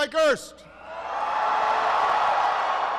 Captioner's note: applause